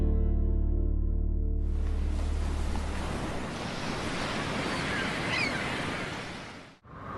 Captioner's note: gulls squawking; water whooshing; wind howling